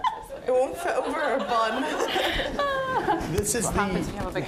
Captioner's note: all laughing